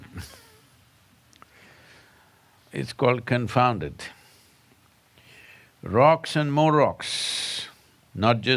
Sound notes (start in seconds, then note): 0.0 laughter